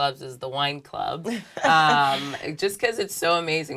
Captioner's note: laugh